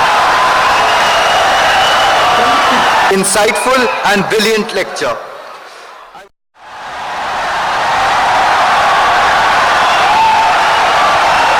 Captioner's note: wild applause and cheering for 17 seconds